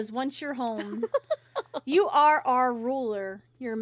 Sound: Mother Gothel Laughs

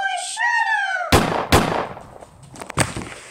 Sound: gun fires

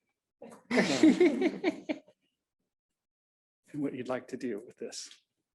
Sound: audience laughing

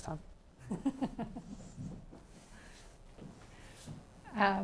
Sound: chuckles

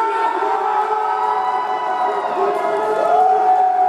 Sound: audience cheers

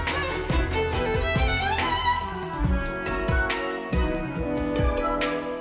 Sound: none

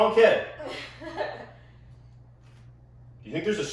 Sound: giggles

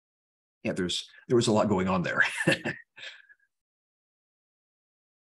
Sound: laughs

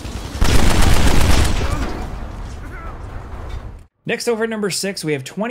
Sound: explosion

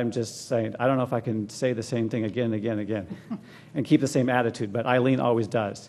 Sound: laugh

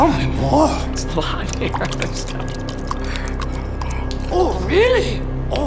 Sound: stammering

